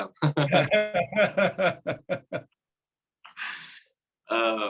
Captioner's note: everyone laughing